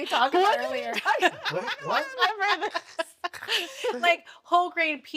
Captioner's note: laughing